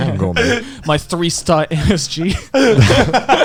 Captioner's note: laughing